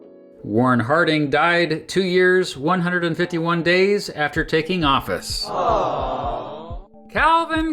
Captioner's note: awww sound effect